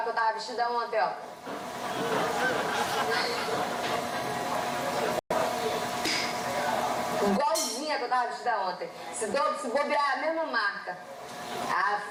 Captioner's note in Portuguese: risos